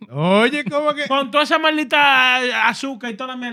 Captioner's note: speaking Foreign Language